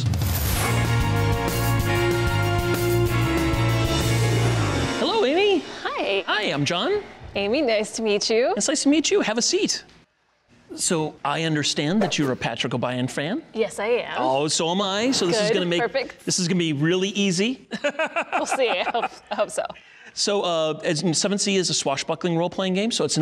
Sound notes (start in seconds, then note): 0.0 adventurous music; 17.7 laughing